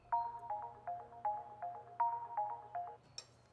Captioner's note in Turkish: Telefon çalıyor